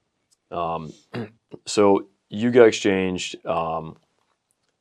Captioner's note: clears throat